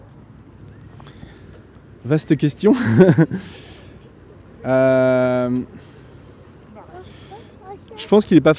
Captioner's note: laughs